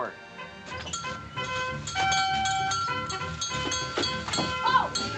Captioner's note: bell Dinging